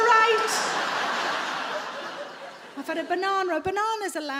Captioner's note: audience laughing